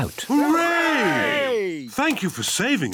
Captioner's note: cheering